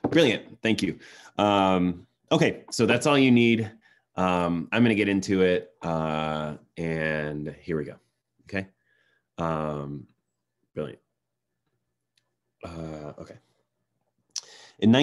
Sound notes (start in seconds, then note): none